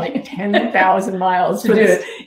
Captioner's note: laughing